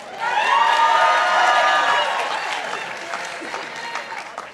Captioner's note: participants applauding